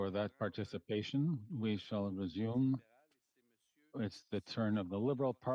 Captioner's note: speaking French